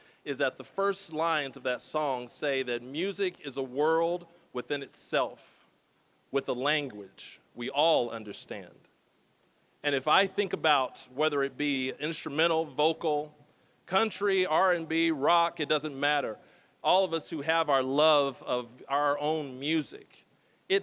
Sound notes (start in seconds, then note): none